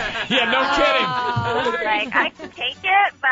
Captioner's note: laughs